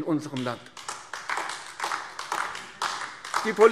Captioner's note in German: Beifall AfD